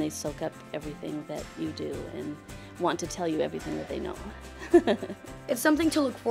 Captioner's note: laughs